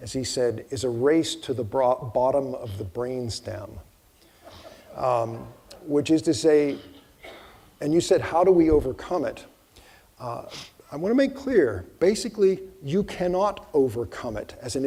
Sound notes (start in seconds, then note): 4.5 audience chuckling